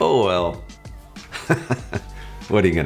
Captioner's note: laughing